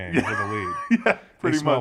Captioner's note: laugh